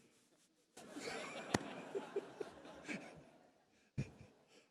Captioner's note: audience laughs